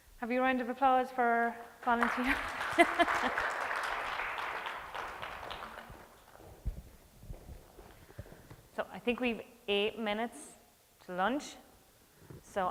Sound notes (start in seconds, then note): 1.9 audience applauding